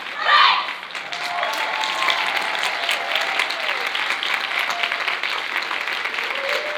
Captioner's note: audience cheering and applauding